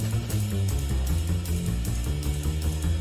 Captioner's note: none